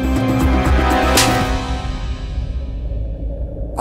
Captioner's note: Slaping